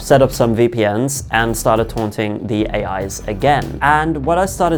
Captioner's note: none